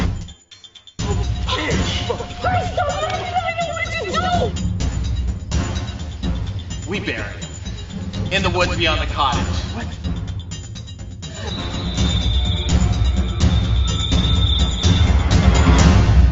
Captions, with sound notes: - What are we gonna do? - We bury him, in the woods beyond the cottage. (screaming) (tense drumming)